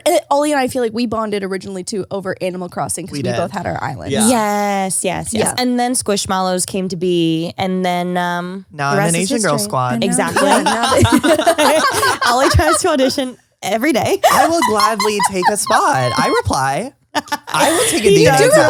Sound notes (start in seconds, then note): 10.2 all laugh; 14.2 laughs